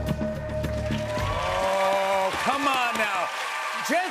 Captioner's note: cheers and applause